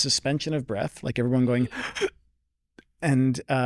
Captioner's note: gasping